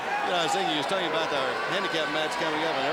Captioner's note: crowd cheering